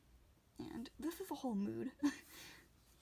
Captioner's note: laughs